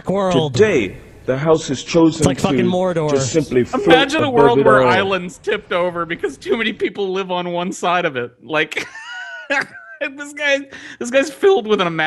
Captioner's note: hilarity in his voice; he laughs